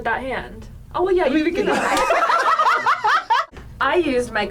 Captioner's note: group laughs